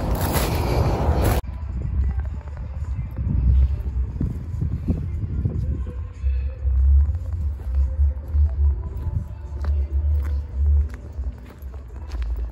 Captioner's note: distant radio